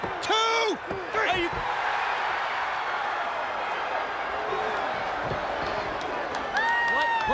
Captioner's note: crowd cheering